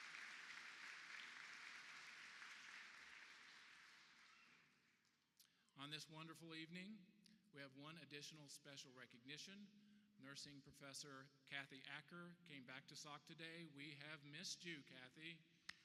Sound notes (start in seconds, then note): 0.0 applause